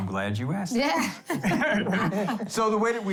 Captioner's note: laughs